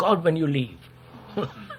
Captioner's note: laughs